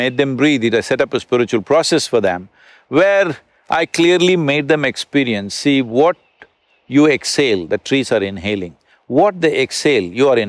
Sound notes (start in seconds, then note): none